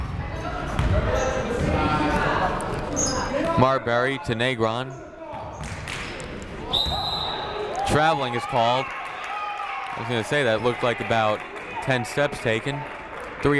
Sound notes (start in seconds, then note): 0.2 people shouting in the crowd; 6.7 whistle tweeting